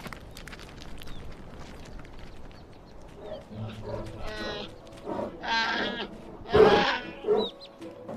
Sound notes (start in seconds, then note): 3.1 the cry of a bear